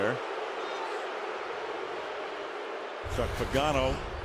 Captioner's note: booing